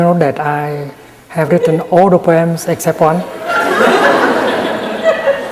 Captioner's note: laughter in the audience